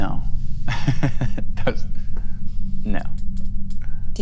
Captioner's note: laughs